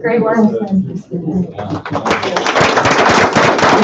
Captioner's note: applause